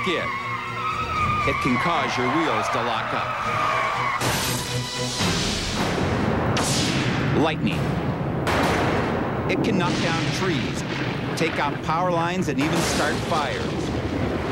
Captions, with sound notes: IT CAN CAUSE YOUR WHEELS TO LOCK UP. [ CRASH ] LIGHTNING -- IT CAN KNOCK DOWN TREES, TAKE OUT POWER LINES, AND EVEN START FIRES.